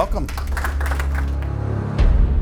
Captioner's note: applause